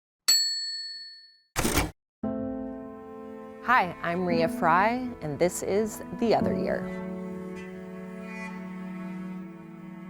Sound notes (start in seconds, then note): 0.3 sound dinging; 1.6 typewriter tapping; 2.2 gentle music; 7.0 gentle music